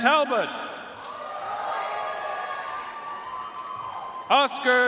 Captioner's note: audience cheering and applauding